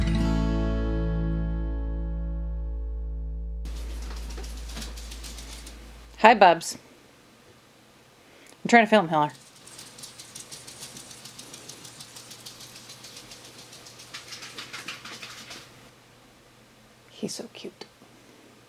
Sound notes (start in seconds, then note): 3.6 little scurrying lizard footsteps; 9.2 more little scurrying lizard footsteps